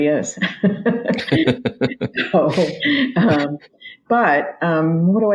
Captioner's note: both laugh